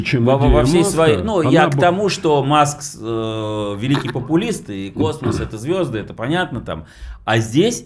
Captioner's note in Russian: откашливается